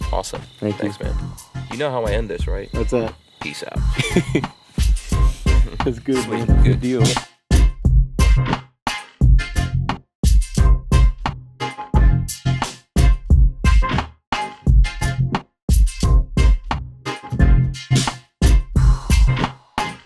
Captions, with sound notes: - Awesome, thanks man. - Thank you. - You know how I end this, right? - What's that? - Peace out! (laughter) (energetic, electronic music)